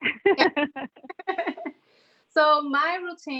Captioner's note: laughs